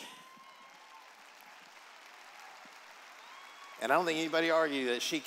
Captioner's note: applause